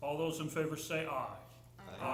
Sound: chorus of ayes

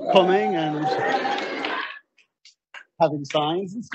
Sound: audience cheering

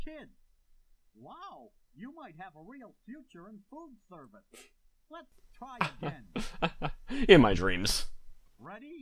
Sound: chuckles

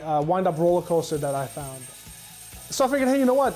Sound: ringing

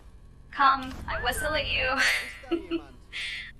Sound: laughs

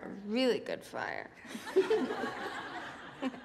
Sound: students laughing

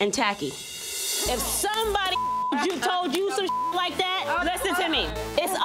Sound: beep

